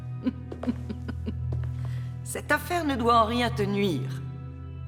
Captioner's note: giggles